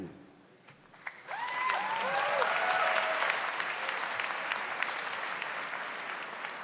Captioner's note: audience applauds; audience cheers